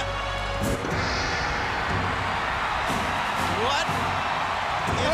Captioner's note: crowd cheering